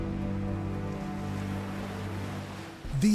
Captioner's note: gentle music; waves splashing